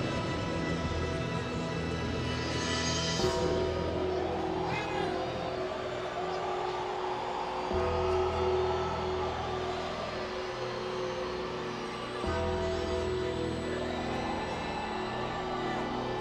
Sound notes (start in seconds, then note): 0.2 solemn funereal music continues; 3.6 bell tolls